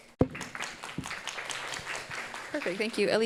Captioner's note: audience applauding